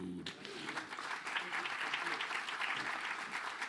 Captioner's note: applause